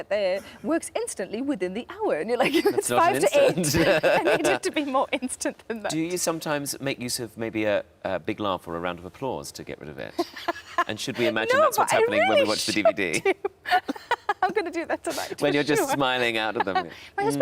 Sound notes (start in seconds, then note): 3.3 laughs; 10.2 Sarah laughs; 14.6 laughs